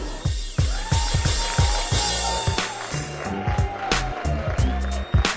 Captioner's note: applause